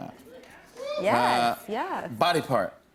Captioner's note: cheers